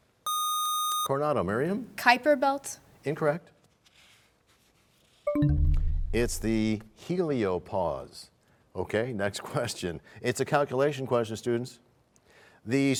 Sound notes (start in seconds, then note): 4.6 bell chimes, time expires